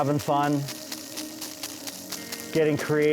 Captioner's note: water spraying on ice